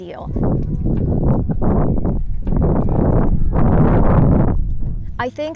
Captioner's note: heavy wind distortion